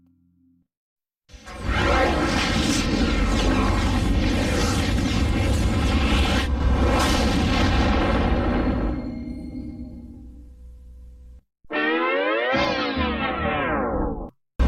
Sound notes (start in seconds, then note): 1.4 dramatic twister and helicopter sounds; 11.6 cartoon music breakdown; 14.4 dramatic sounds resuming